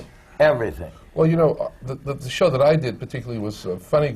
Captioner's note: none